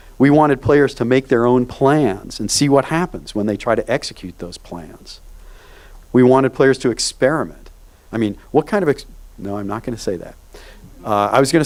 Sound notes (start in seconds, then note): none